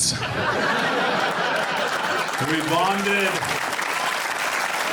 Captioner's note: audience applauding